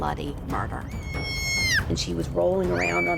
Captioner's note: screaming